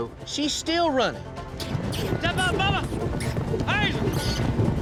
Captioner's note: squeaky sounds